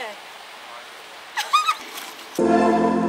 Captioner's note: laughs